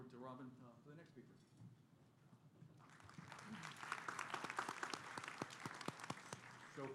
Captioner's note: applause